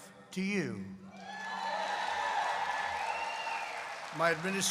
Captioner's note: applause